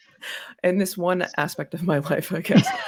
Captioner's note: laughs